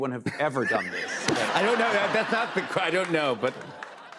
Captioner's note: laughter